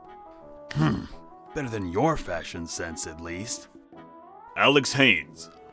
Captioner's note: scoff